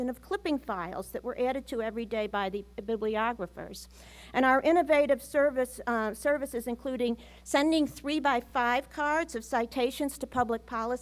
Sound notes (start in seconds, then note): none